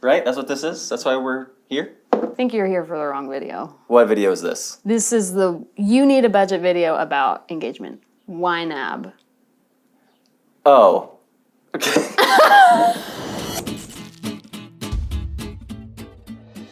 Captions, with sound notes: Right, that's what this is? That's why we're here? - I think you're here for the wrong video. - What video is this? - This is the You Need a Budget video about engagement, YNAB. - Oh okay. (laughing) (upbeat music)